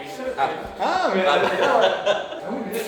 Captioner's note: shout of surprise